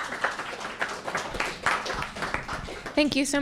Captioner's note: applause